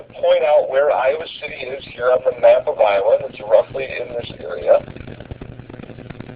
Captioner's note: lesson audio plays